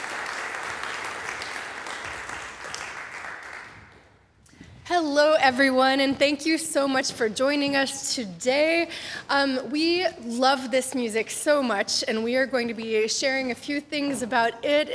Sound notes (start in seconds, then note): 1.6 applause fades; 6.2 speaking cheerfully